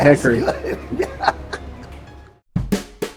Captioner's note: laughs